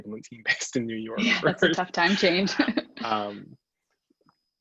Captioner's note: laughs